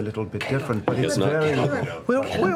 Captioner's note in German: flüstert